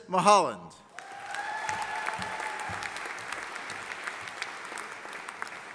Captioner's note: audience applauding